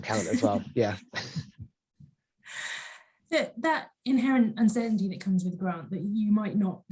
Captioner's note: laughs